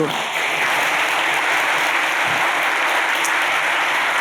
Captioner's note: applause